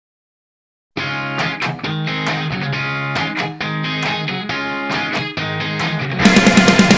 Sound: clapping with the beat

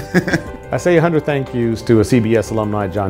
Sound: laugh

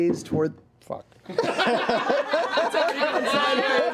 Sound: laughter

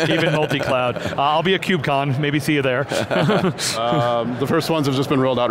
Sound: laughs

